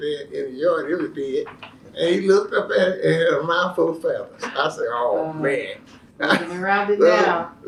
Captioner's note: laughter